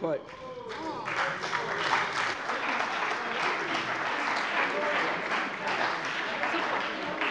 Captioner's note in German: Heiterkeit - Allgemeiner Beifall - Siehe Anlage 2